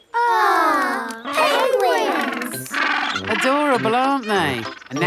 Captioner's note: penguins chatter